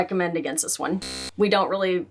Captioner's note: buzzing